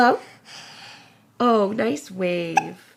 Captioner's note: hiccup